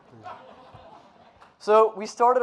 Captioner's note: audience laughing